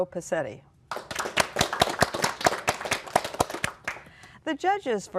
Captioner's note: applause